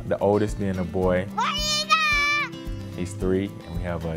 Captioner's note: Screams: WAR EAGLE!